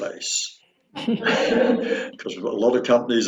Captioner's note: both laughing